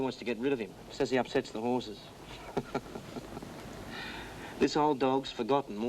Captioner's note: chuckles